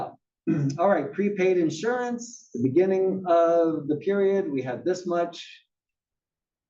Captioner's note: cough